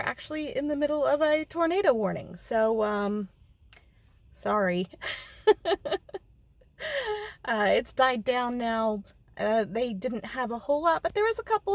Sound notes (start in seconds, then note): 5.1 nervous laugh